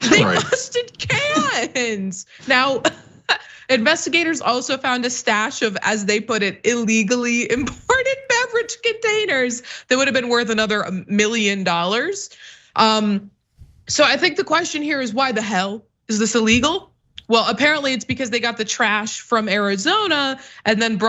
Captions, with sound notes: They busted cans. Now [LAUGH] investigators also found a stash of, as they put it, illegally imported beverage containers that would have been worth another million dollars. So I think the question here is why the hell is this illegal? Well, apparently it's because they got the trash from Arizona and